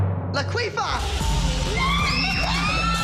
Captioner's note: screaming